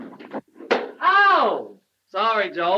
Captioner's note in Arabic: صفعة على اللوح